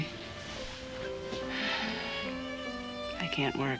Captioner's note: sighs